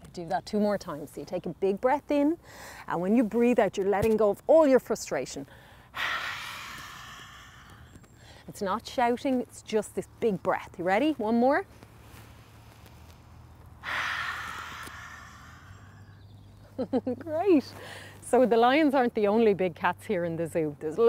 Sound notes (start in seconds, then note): 5.9 blowing out air; 13.8 blowing out air; 16.6 giggles